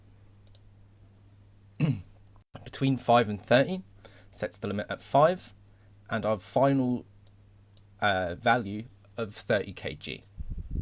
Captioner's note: coughs